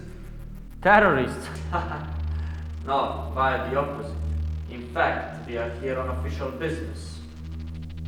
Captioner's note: laughs